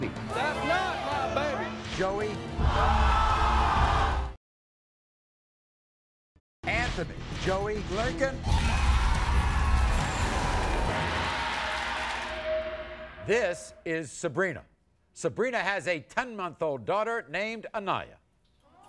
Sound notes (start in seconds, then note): 2.7 audience yells; 8.5 audience yells